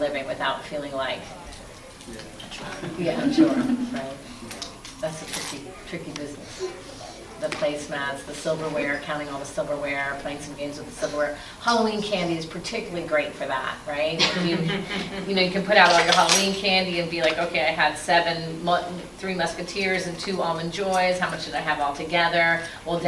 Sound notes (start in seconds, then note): 14.2 laughing